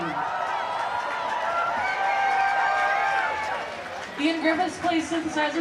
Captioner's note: cheering